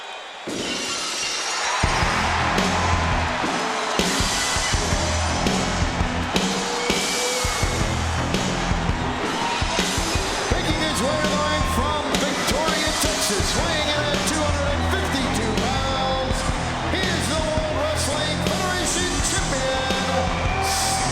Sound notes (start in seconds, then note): 0.8 glass shattering; 2.0 crowd cheering; 2.0 upbeat rock music